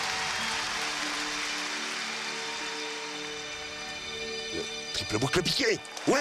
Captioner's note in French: applaudissements